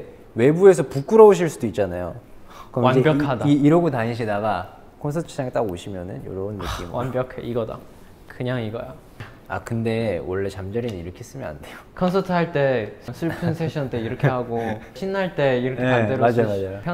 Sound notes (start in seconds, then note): 14.5 sobbing